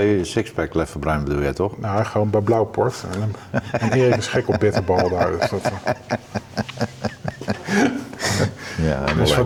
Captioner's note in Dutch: gelach